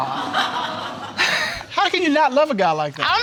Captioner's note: audience laughing